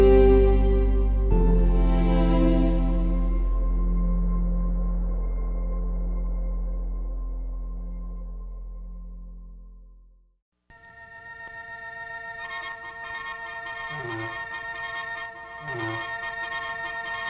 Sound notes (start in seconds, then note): 10.8 telegraph machine beeping; 10.9 serious music